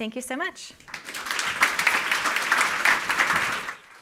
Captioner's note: applause